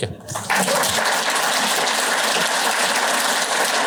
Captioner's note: applause